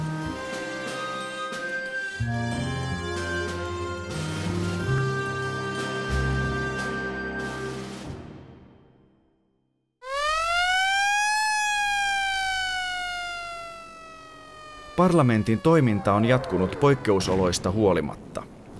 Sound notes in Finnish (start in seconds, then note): 10.0 sireenin ääni